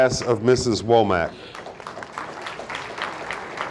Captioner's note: audience applauding